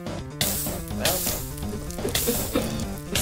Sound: starts laughing

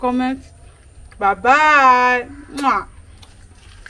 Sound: kisses

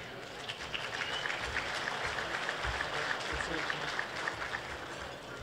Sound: applause

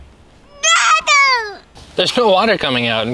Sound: shouting

